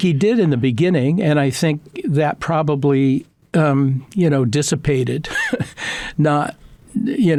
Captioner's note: laughs